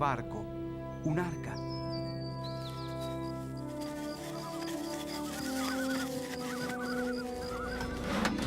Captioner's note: aves cantando